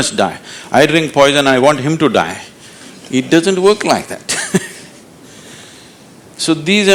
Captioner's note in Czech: Smích